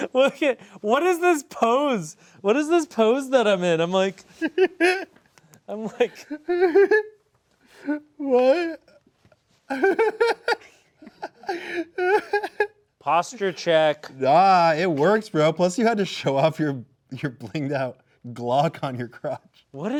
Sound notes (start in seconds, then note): 4.3 chuckling; 5.7 giggling; 9.7 laughing